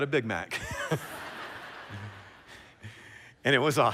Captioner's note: laughter